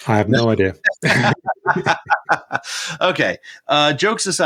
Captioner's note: both laugh